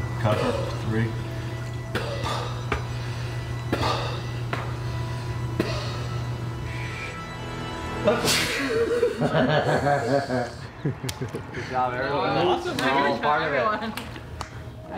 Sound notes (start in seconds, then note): 8.2 sneezes; 8.3 laughter